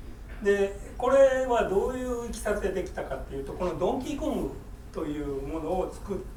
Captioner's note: speaking in foreign language